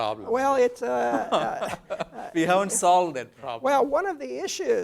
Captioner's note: laugh